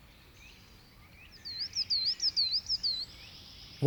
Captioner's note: birds twittering